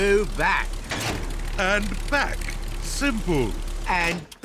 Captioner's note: lever clunks